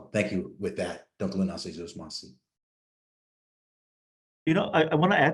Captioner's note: speaks in foreign language